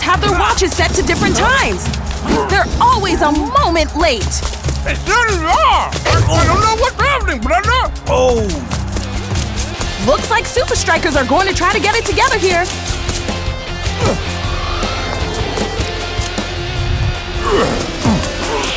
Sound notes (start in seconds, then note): 13.8 grunting